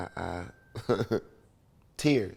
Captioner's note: laughs